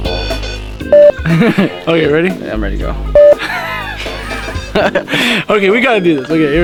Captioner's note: haha